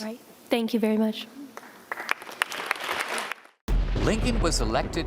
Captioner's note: audience applause